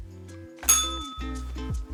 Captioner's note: bell rings